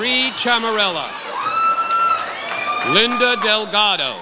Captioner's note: audience cheers